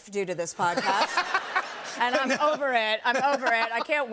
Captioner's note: laughter